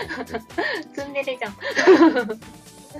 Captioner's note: laughter